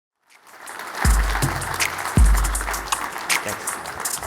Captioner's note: attendees applauding